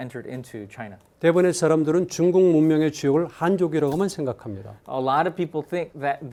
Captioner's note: speaking in Korean